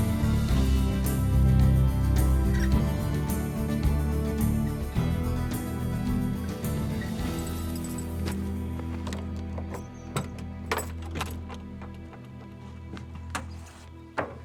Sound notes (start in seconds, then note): 7.1 keys jangling, unlocking